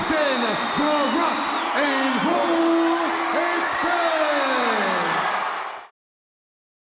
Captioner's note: audience cheering